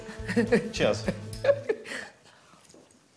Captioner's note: in English